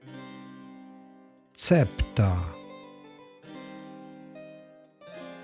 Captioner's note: german